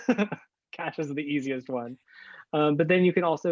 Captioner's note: laughs